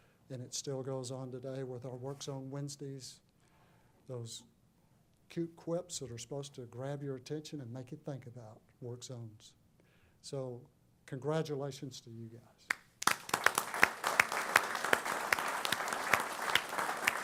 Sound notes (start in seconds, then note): 12.7 applause